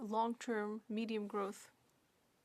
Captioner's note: speaking French